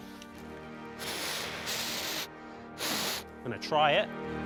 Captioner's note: blowing